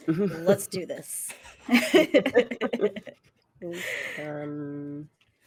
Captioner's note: everyone laughs